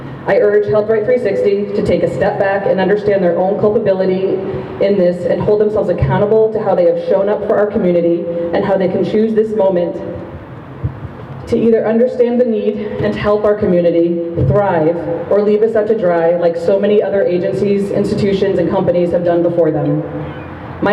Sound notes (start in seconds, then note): none